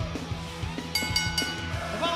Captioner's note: bell ringing